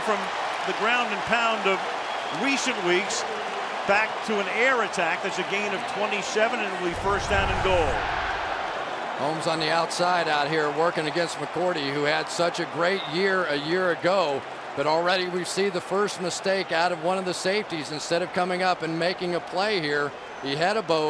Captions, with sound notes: So the Jets go from the ground and pound of recent weeks back to an air attack. That's a gain of 27. And It'll be first down and goal. [crowd chanting] Holmes on the outside out here, working against McCourty, who had such a great year a year ago. But already, we see the first mistake out of one of the safeties. Instead of coming up and making a play here,